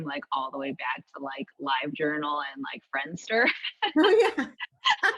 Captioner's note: laughs